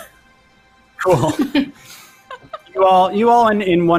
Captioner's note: laughs